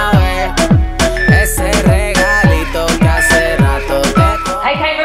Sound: workout timer beeping

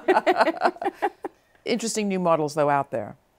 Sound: laughter

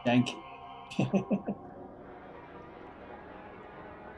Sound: chuckles

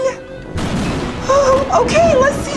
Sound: thunder crashes

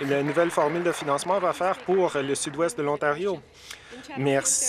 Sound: some Applause

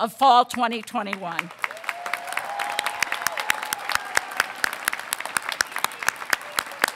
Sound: audience applauding; audience cheering

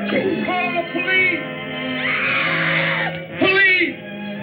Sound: screams

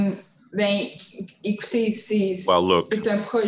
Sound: speaking in French

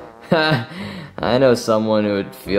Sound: chuckles

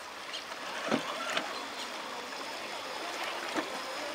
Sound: tires spinning

